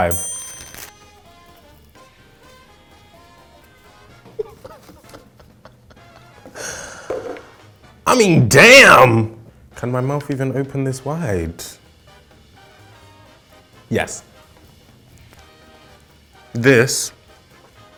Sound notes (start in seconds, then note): 0.0 bell ringing; 4.2 laughing